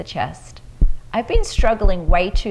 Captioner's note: taps